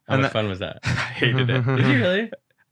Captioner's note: group laughing